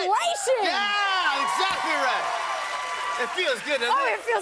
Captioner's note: cheers and applause